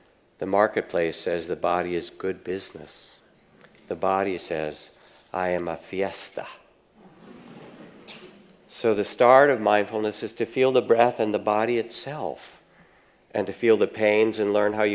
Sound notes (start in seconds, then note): 7.0 audience laughs